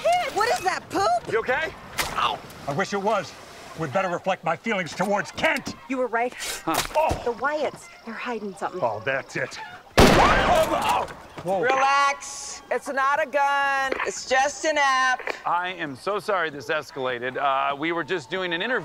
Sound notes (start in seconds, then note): 10.0 gunshot; 11.4 all shout